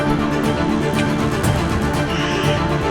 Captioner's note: yelling